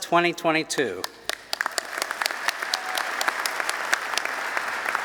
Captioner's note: applause